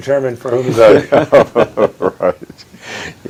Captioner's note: laughing